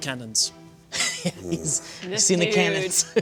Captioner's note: laughter